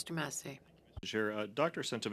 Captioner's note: speaking French